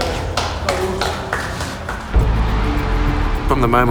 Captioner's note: clapping